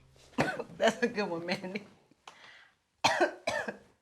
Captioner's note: Lolita laughs; coughs